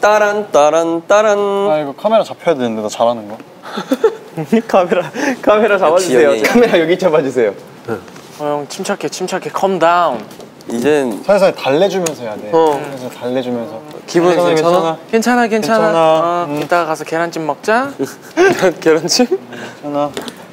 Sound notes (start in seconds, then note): 3.6 sassy